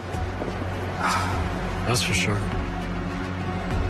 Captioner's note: sighs; tense music